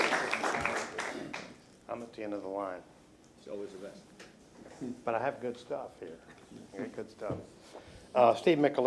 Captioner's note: applause